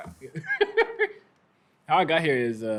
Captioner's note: laughs